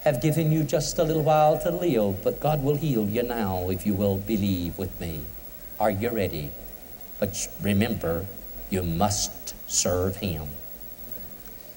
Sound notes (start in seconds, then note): none